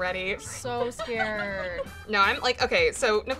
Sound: laughs

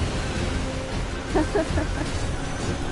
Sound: laughs

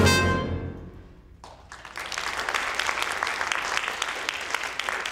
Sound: audience applauding

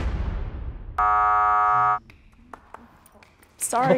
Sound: upbeat music; buzzer buzzes

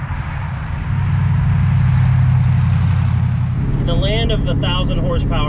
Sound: engine purring

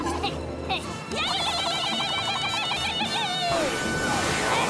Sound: yelling

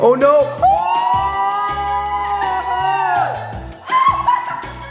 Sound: screaming

